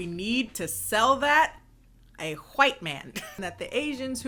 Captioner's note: laughs